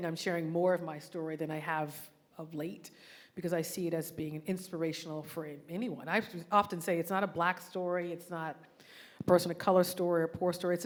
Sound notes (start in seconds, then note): none